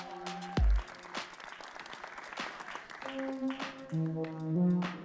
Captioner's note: audience clapping; spirited upbeat music fades